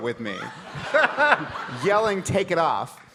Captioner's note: audience laughing